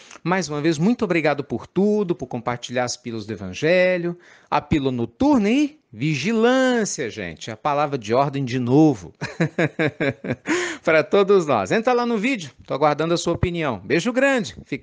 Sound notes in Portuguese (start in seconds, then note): 9.2 risadas